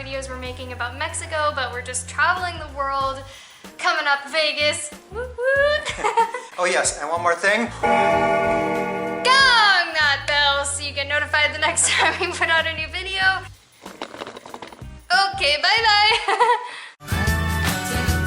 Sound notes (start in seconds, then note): 5.4 laughter; 7.8 bell Ringing; 16.1 laughter